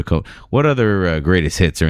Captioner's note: uh